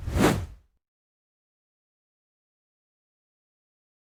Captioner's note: air whooshing